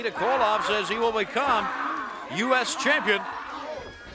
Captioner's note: crowd chatter